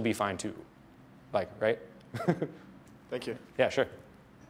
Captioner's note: laughs